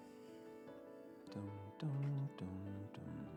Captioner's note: humming